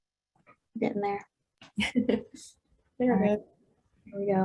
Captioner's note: chuckles